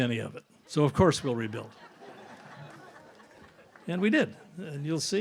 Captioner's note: audience laughs